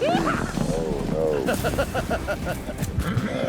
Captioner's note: rope swirling, horse neighs; fast hoofbeats; laughing